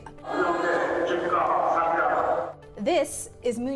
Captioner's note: shouting